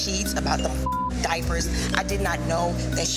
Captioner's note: beep